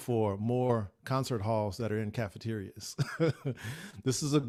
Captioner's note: laughs